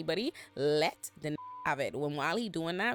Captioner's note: beep